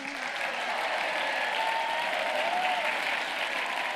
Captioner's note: audience applauding